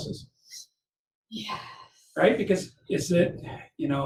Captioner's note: sigh